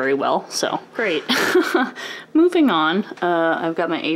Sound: laughs

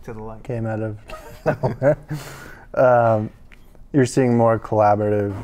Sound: chuckling

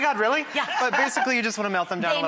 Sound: laughs

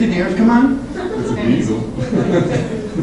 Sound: class laughs

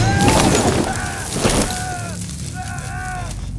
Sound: Dao screaming

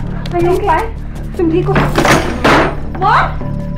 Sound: door opening

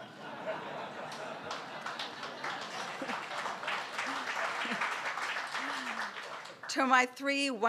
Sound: laughter and applause

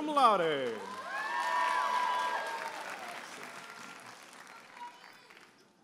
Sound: audience applauding and cheering

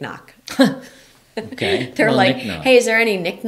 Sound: laughing

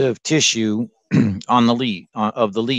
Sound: clears throat

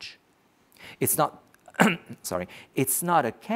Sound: coughs

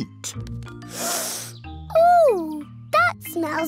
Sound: sniffs

